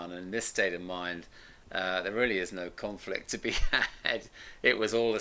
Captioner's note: laughs